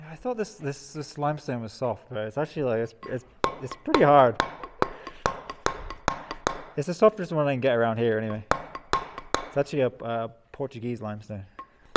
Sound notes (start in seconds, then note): 2.9 metal hammering